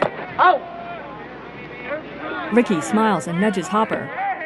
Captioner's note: players shouting